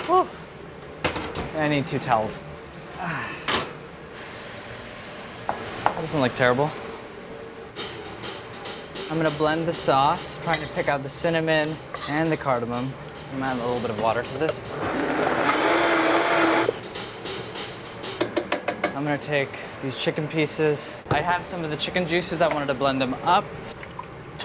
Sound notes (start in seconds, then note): 7.9 up-tempo percussive music; 14.8 blender whirs; 18.5 blender bangs against pot